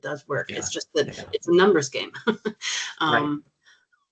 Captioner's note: chuckling